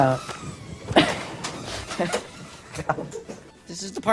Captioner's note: laughter